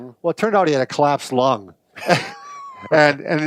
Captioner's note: both laugh